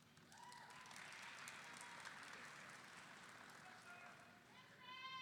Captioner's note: audience applauding